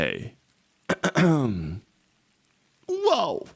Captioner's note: clears throat